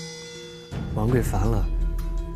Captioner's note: ping